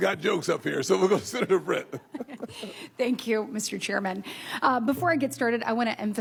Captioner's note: laughter